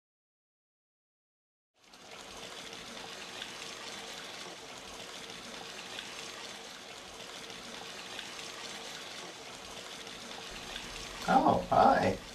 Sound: running water

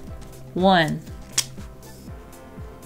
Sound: marker cap clicks

